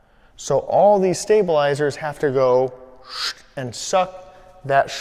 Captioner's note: sucks air